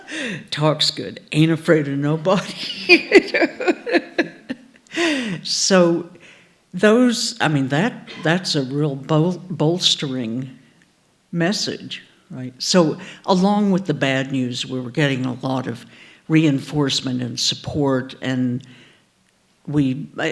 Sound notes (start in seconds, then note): 2.4 laughs